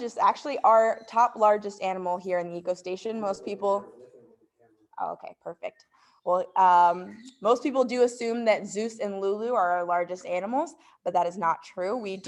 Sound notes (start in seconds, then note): 3.8 faintly speaking